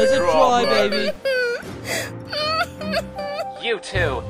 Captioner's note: sobbing continues